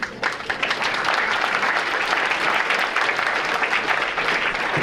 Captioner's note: audience applauding